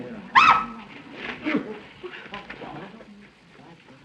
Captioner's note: screams